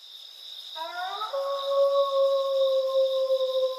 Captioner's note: crickets chirping; wolf howling